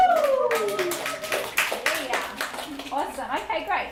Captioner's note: applause